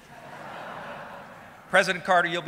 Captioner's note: audience laughing